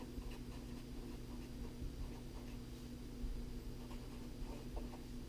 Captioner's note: pen writing on paper